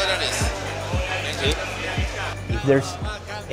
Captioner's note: 2nd man, in Spanish; man's voice